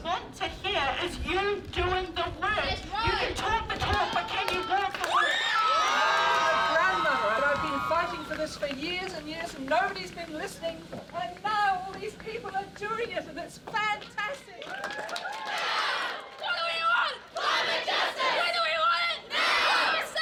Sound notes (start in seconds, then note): 5.3 crowd applauding; 13.8 crowd clapping